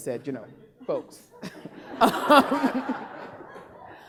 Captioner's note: laughing